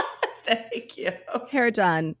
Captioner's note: laughing